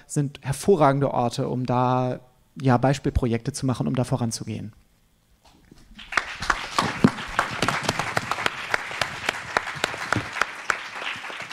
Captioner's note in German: applaus